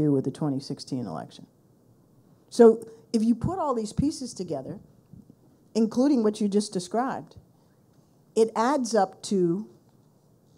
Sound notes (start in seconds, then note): none